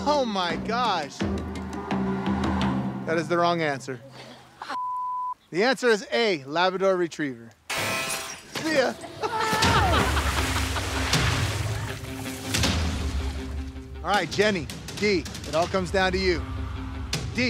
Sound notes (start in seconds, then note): 8.6 laughs; 9.2 screams